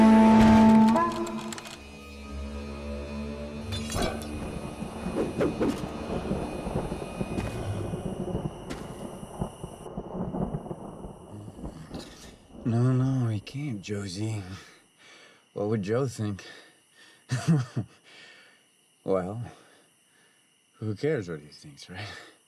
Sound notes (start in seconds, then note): 0.0 horn blares; 0.5 doorknob rattles; 4.4 thunder rumbles; 5.1 axe whooshes; 17.3 Hatfield giggles